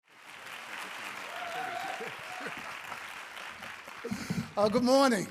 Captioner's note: audience cheering